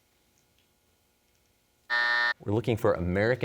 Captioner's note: buzzer sounds